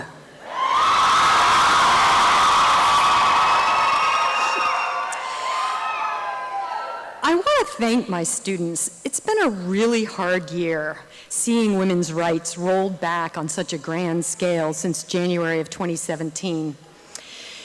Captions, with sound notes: (applause and cheering) I want to thank my students, it's been a really hard year, seeing woman's rights rolled back on such a grand scale since January 2017,